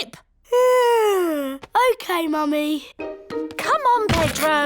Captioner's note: yawns